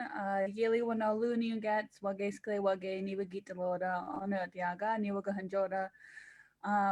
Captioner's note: speaks indigenous language